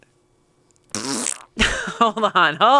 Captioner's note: imitates a fart